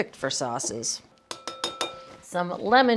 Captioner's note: grater banging